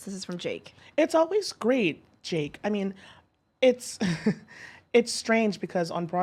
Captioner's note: laughs